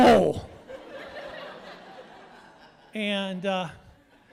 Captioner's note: audience laughing